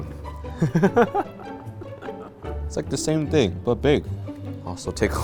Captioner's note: laughs